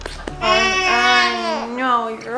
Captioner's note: baby crying